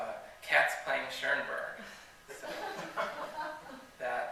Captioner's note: laughter